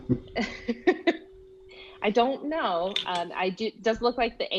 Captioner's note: laughing